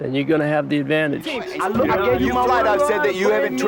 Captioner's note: shouting